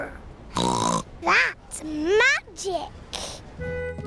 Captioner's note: snorts